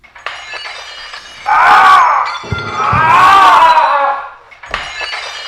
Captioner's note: Manny groans and yells